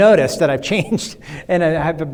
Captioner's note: laughs